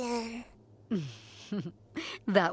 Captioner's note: chuckles